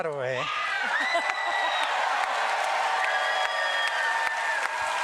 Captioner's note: screams and applause